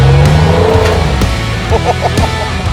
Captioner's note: engine roaring; rock music; laughing